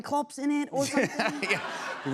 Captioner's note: laughter